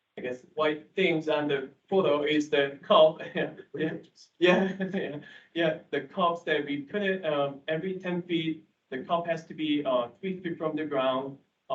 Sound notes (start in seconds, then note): 4.4 indistinct chatter; 4.4 laughing